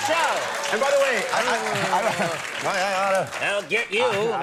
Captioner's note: crowd applauding